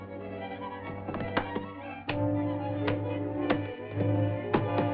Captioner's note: suspenseful music; opening latches